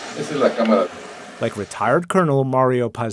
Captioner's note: speaking foreign language